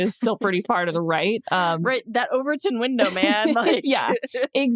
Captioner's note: chuckles